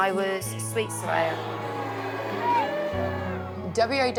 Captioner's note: cheering